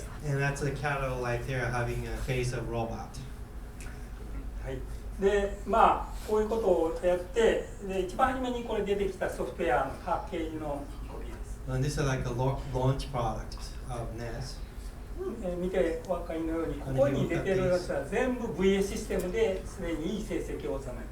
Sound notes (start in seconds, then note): 0.0 speaking in foreign language; 4.8 speaking in foreign language; 15.7 speaking in foreign language